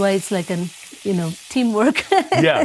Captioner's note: laughs